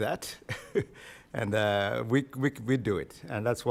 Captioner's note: chuckles